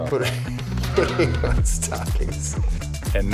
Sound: laughter

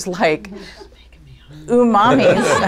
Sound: laughter

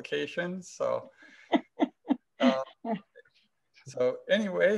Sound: laughs

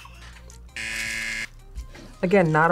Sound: buzzer

